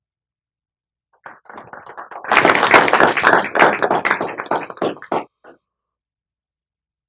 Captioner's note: applause